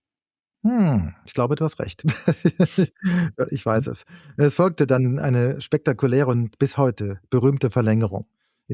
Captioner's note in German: gelächter